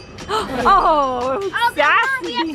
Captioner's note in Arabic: صراخ الأطفال